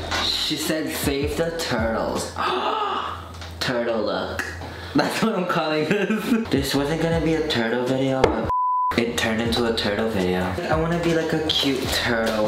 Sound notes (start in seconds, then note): 5.9 laughs; 8.4 beep